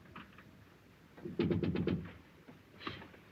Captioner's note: knocking